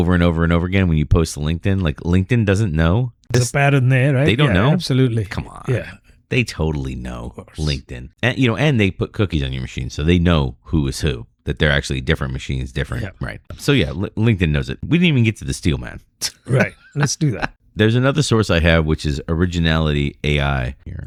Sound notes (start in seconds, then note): 13.4 uh